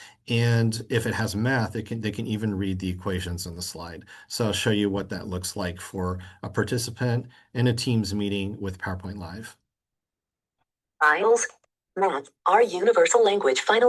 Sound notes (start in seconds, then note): 11.2 computerized voice